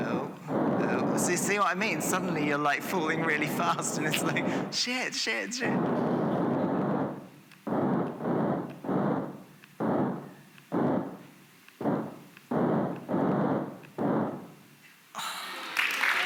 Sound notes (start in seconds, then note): 6.7 applause